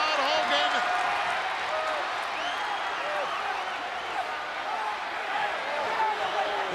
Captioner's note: crowd cheers